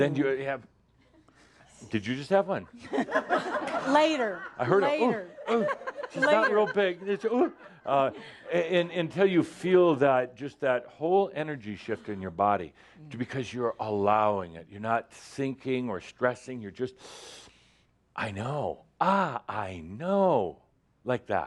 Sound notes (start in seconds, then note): 2.6 some chuckles; 7.6 laughter; 11.6 more chuckles